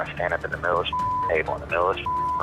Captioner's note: beep